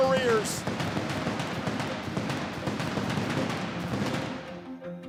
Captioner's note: fireworks bursting